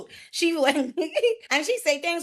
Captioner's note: giggles